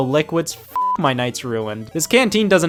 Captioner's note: beep